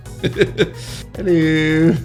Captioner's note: laughs